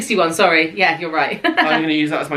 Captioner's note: laughing